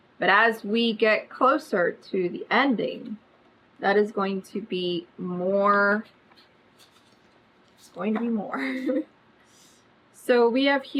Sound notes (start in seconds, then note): 8.5 laughs